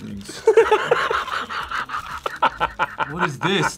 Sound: laughs

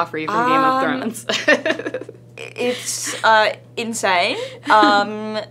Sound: laughing

